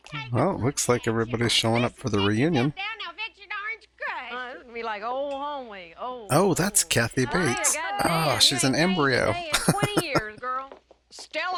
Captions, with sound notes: Well, it looks like everybody's showing up for the reunion. Oh, that's Kathy Bates. She's an embryo. [Laughing]